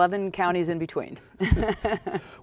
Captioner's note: laughing